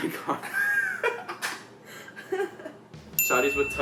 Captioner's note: all laughing